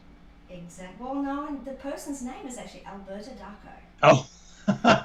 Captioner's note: laughter